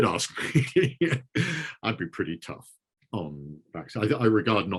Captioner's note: chuckling